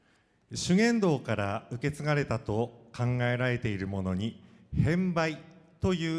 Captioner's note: speaking foreign language